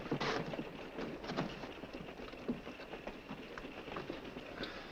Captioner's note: wheels clattering